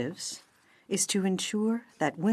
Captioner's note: speaking French